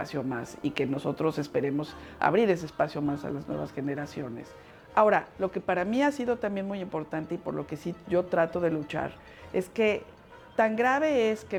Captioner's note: speaking Spanish